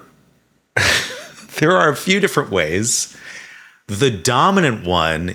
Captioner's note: chuckles